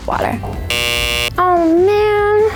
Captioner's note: buzzer